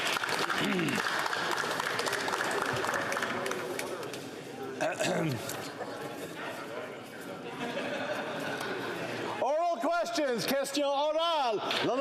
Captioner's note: some Applause